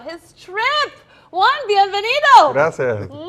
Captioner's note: speaks foreign language